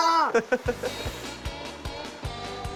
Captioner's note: laughter